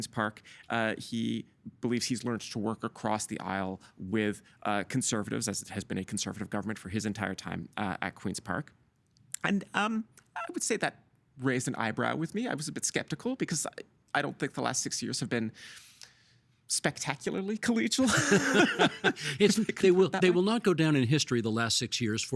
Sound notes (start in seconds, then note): 18.0 both laughing